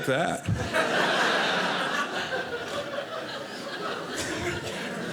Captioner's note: audience laughing